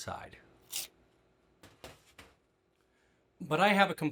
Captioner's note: fry crunches